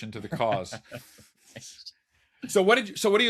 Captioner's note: laughs